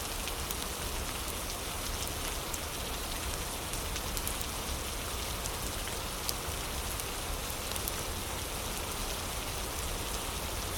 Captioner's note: fire crackling; fire crackling